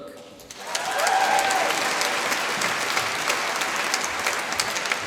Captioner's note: applause